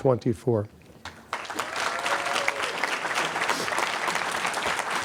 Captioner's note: applause